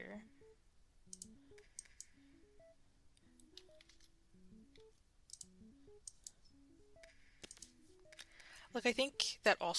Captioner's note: mouse Clicking